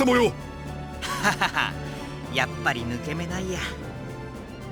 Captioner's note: awkward laugh